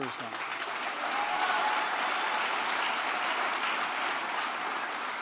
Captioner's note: applause